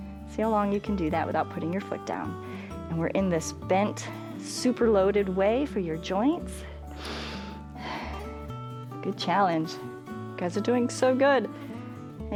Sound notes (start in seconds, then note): 6.6 inhales and exhales